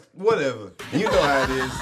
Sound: girls laugh

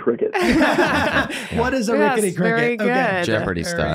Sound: laughing

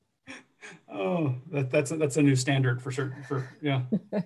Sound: laughs

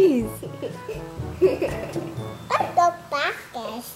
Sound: children laugh

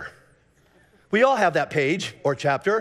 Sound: congregation laughing

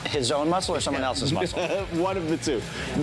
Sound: laughs

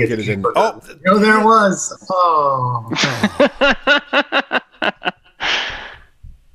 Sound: laughter

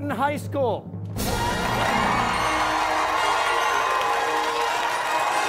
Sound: cheers and applause

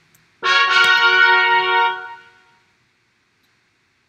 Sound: Duolingo Finish Chime

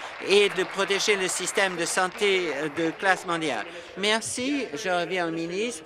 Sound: applause

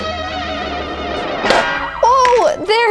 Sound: popping noise

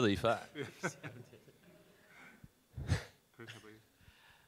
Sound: laughing

